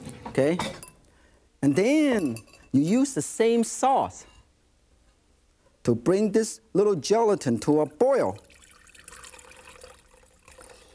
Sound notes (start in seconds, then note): 8.3 pouring